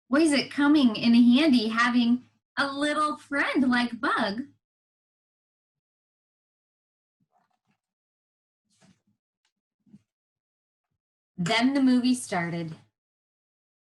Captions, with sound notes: Where is it coming in handy having a little friend like Bug. (page flipping) "Then the movie started.